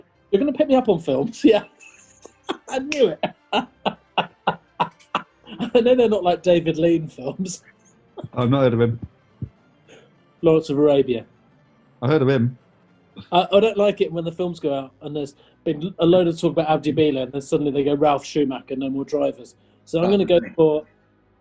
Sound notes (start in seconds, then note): 2.8 clicks finger; 3.5 laughing